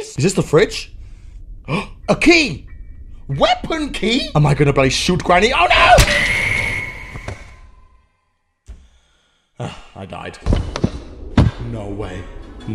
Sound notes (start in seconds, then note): 1.5 gasp; 9.6 sighs